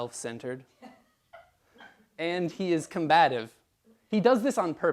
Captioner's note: laugh